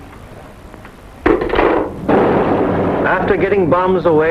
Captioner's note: phone clattering